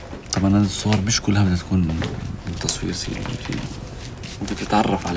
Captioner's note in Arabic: يتحدث باللغة الأجنبية